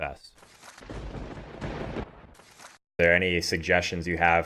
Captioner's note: lightning strikes